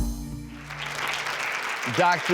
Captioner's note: applause